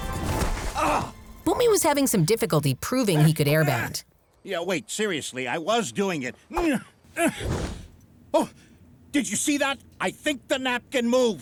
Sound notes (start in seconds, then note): 0.1 grunting; 7.1 grunting